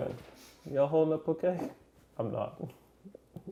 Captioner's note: chuckling